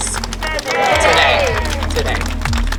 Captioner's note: crowd laughter